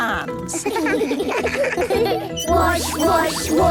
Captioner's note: children giggling